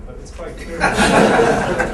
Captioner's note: laughter